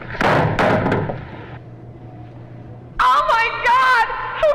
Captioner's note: phone thuds